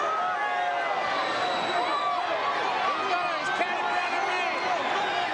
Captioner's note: crowd cheering